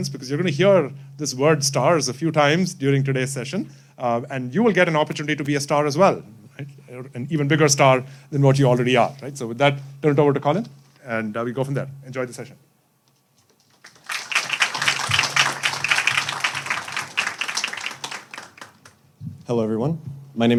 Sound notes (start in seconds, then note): 13.7 audience applauding